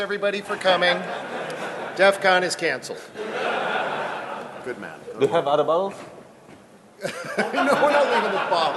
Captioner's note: laughing; laughing